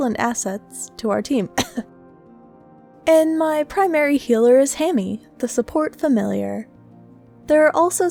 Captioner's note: cough